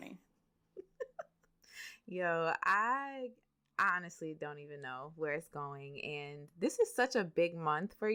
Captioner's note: laughs